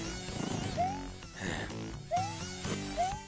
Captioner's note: sigh